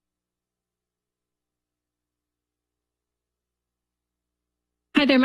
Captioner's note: silence